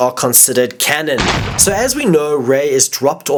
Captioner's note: explosion